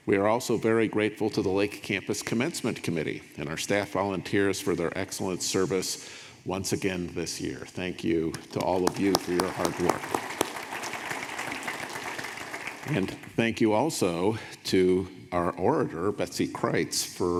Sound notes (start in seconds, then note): 10.5 audience applauding